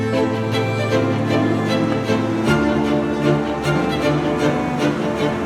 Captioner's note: vehicle rumbling